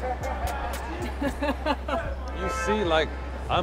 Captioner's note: laughing; laughs